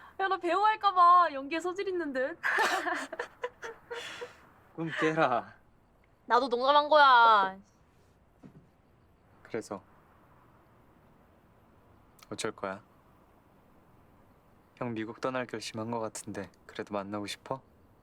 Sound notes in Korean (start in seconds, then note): 2.4 진희와 지석 웃음소리